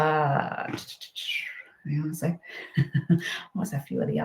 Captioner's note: chuckles